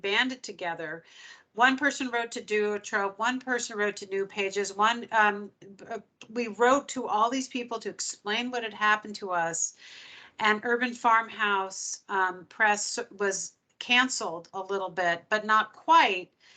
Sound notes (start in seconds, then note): none